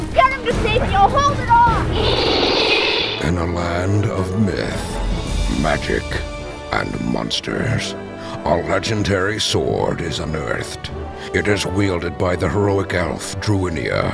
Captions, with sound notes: You get him to safety, I'll hold it off. [roar] In a land of myth, magic and monsters A legendary sword is unearthed. It is wielded by the heroic elf Druinia